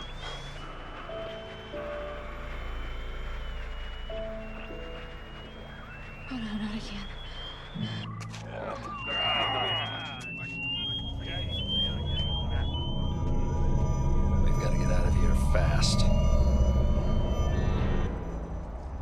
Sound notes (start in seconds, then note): 1.1 alarm; 8.0 whistle; 11.7 alarm; 17.1 bell